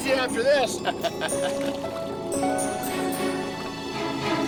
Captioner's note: laughing